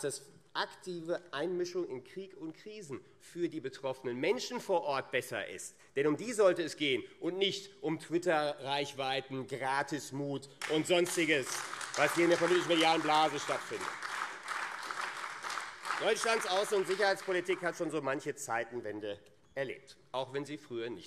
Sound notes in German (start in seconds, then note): 14.7 Beifall AfD